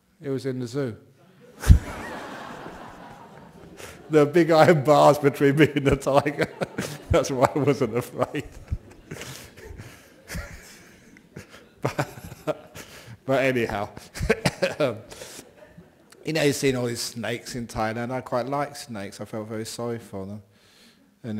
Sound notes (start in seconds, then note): 2.8 laughter; 11.6 laughing